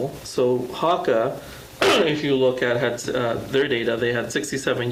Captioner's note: clears throat